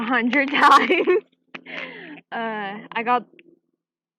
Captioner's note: chuckles